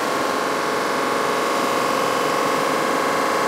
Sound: whirring noise

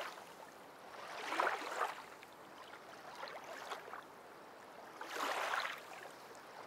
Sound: sloshing of waves

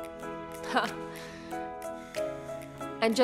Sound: chuckles

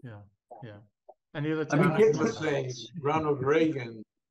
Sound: faintly speaking

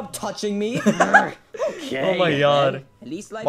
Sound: laughing

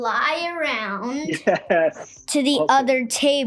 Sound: laughing

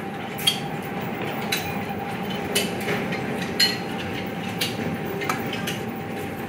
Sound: sound of a ropeway playing

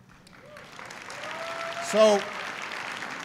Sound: applause

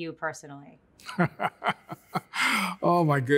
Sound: laughs

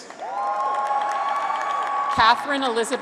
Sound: graduates cheer

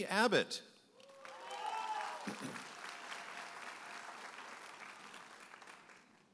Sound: audience applauding and cheering

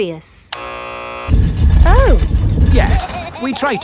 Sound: buzzer sounds

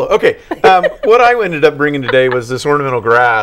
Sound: laughing

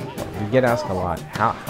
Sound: gun shots

